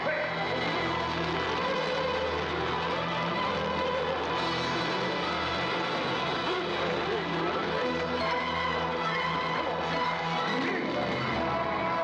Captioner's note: dramatic music; fire crackling; military orchestral music